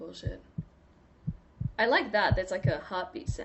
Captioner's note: heartbeat sound